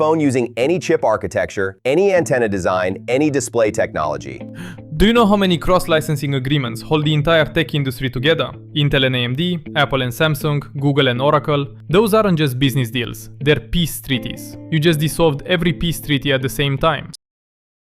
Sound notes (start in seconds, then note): 4.5 gasps